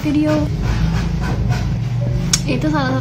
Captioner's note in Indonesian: suara pembangunan